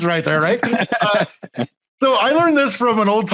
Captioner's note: laughing